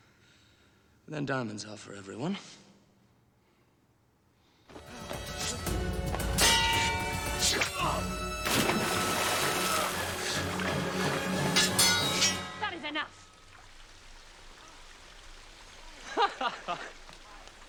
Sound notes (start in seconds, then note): 6.4 metal clinking; 7.4 whoosh, fabric tearing; 8.4 splash; 11.5 metal clinking